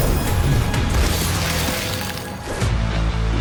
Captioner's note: ice freezing